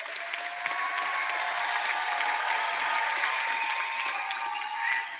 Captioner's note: applause